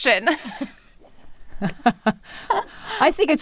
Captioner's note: laughing